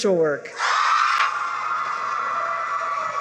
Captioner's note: cheering